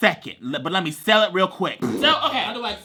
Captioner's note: blows raspberry